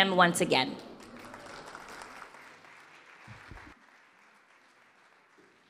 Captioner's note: audience applause